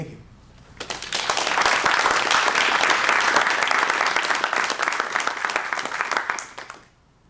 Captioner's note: applause